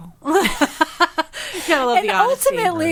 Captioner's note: group laughing